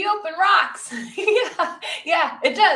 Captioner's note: laughs